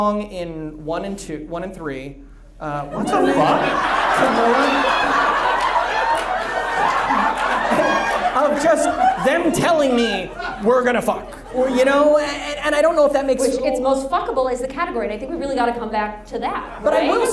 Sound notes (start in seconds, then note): 4.3 audience laughs